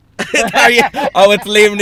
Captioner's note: laughing